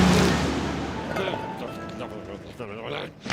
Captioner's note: grumbles